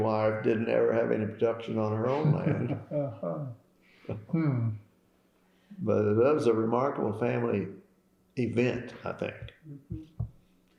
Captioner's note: laughter